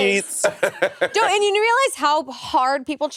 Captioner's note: Monét laughing